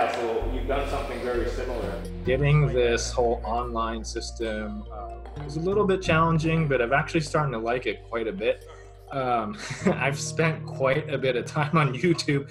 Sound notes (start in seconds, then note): 9.5 laughs